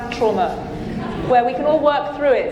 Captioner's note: audience laughing